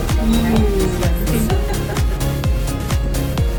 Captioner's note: upbeat music; laughing; upbeat music